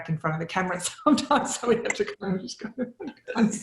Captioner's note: laughs